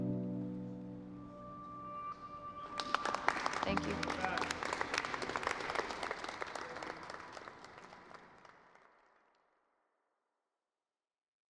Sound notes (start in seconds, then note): 0.0 somber music; 2.5 crowd claps